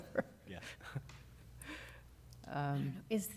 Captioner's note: laughter